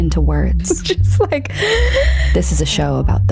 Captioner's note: laughing